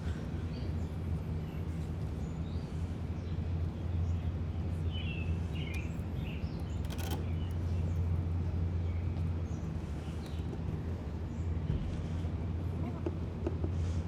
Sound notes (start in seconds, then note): 4.6 birds chirping